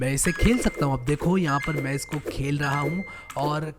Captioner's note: beeping continues